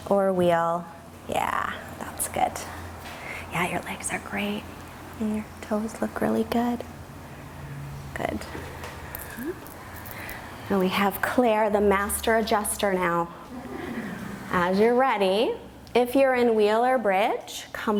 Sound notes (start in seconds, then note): 13.5 group chuckles